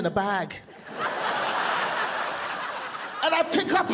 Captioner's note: audience laughing